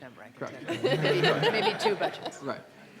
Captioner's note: laughter